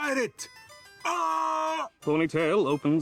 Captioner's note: screams